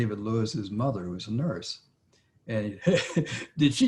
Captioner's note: laughs